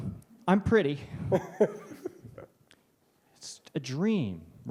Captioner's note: laughs